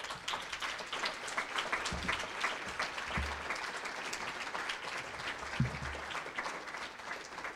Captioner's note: applause